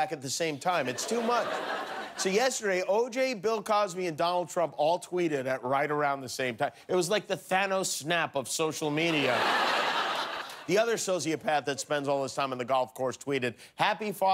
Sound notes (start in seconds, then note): 6.0 laughter; 12.5 laughter